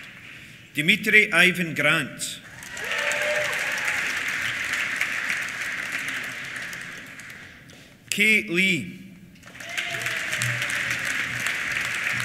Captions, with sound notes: Dimitri Ivan Grant. (CHEERS) (APPLAUSE) Kay Lee. (CHEERS) (APPLAUSE)